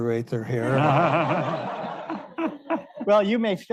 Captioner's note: all laughing